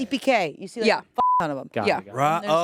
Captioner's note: beep